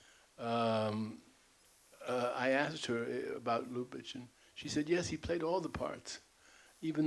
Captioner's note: imitating Hasso